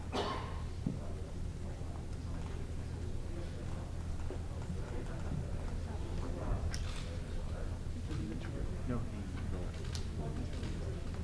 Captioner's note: indistinct chatter